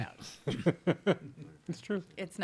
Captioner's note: laughing